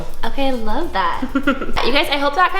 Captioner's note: laughter